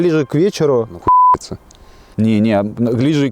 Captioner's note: sarcasm